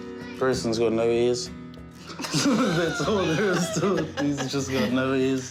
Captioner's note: both laugh